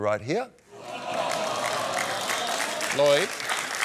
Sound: audience sighs and claps

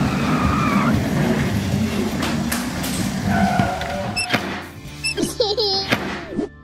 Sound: engine revving; laughing

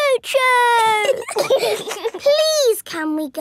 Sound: giggling

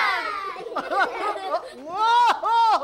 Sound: laughing

